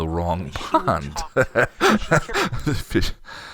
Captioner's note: laughs